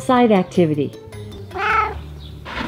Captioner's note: meow